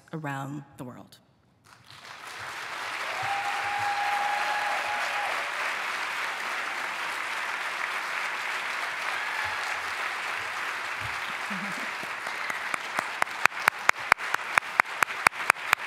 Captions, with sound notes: around the world. [APPLAUSE] [CHEERING]